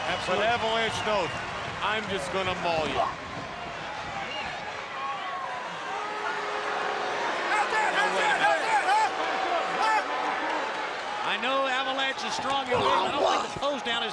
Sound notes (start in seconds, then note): 3.2 crowd cheering; 4.1 crowd chatter